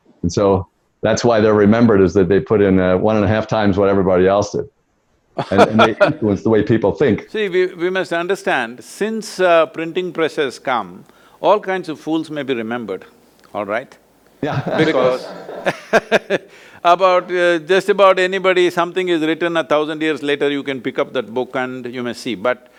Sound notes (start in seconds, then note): 5.4 Sadhguru laughs; 14.4 laughs